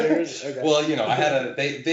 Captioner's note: laughing